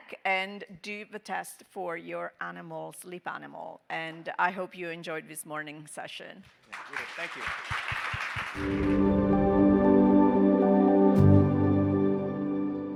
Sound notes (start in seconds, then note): 6.4 audience clapping; 8.6 airy music